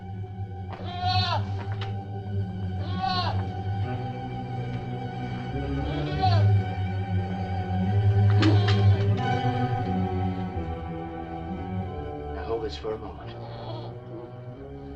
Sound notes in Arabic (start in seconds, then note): 0.7 نباح الماعز; 1.1 موسيقى تشويقية